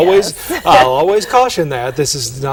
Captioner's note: chuckle